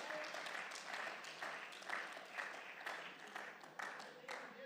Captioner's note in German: Beifall